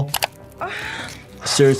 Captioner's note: mouse clicking; victim grunting